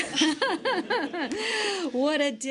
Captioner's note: laughter